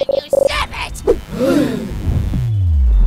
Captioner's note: gasp